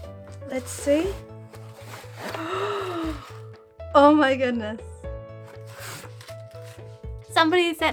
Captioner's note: gasp of happiness